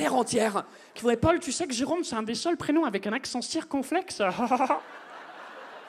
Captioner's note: mocking voice